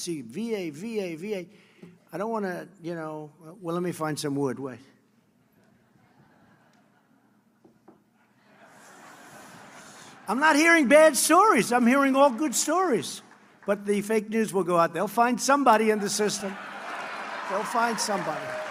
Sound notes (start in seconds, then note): 5.7 laughter; 11.7 applause; 16.3 laughter